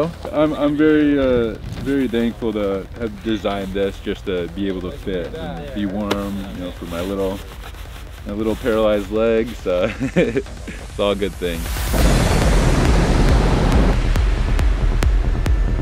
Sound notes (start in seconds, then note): 9.8 laughs